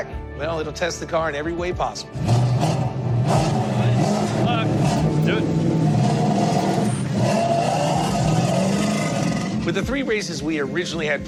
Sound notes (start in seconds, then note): 1.8 engine revving; 5.8 engine revving